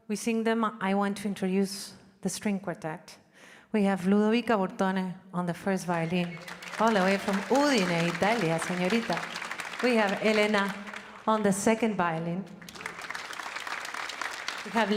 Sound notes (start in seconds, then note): 7.6 speaking in Spanish; 12.5 audience applauding